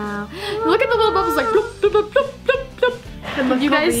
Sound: makes sound effect

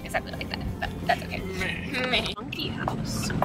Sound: imitates laugh; imitates own laugh

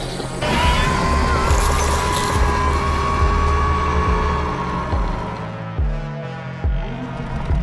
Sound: Scorpius Rex Screeching Sound

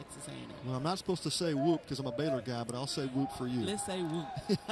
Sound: laughter

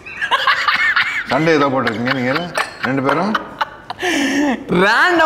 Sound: laughs

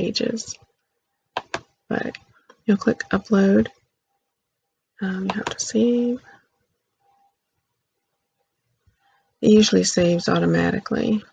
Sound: click; click

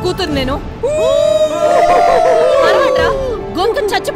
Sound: crowd howling

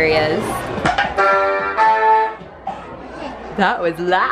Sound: loud electronic sound

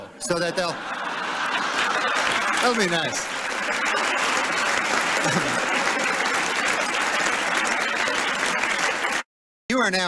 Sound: laughter, applause

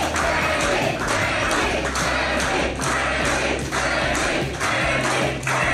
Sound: crowd

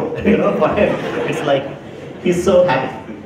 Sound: laugher

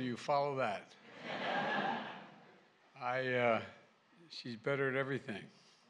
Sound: laughter

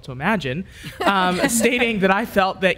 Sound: panelists laughs

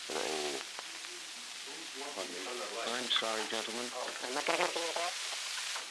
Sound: production chatter

